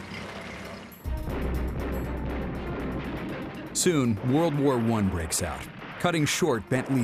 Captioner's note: guns firing